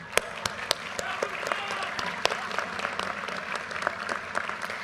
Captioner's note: audience cheers and applause